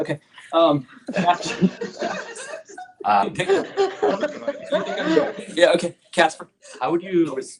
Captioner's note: laughter